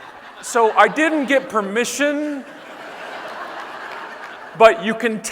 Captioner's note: audience laughing